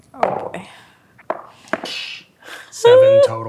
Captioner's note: dice rolling